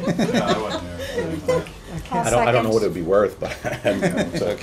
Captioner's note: laughter; laughter